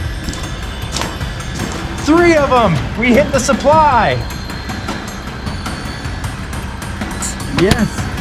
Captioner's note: metal clangs